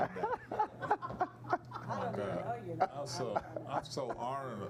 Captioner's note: laughing